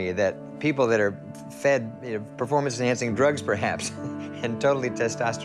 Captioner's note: laughs